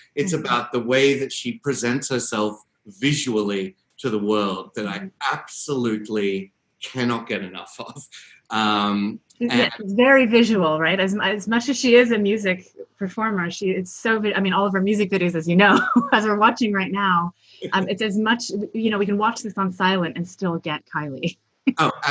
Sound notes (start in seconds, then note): 15.9 laughs